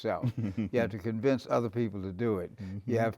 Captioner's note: laughs